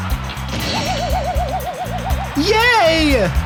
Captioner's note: cheering; crashing